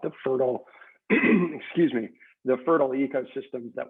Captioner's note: clears throat